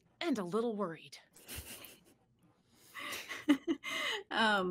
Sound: laughter

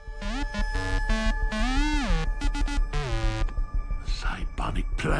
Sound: beeps

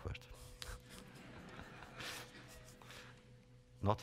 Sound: laughter

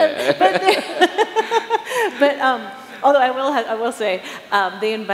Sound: chuckles

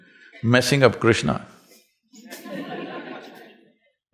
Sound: laughter

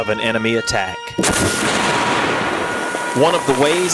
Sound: explosion

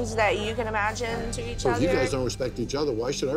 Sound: none

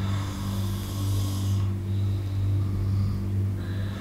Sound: snoring

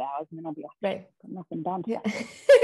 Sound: both laughing

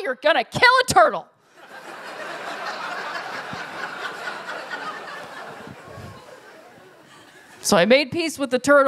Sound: laughter

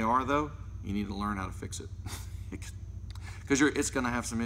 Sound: laughs

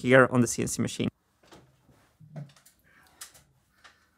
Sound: steps on ladder

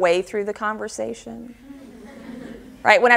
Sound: audience laughter

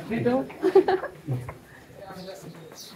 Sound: laughing

